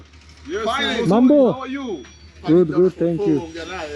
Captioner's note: In Swahili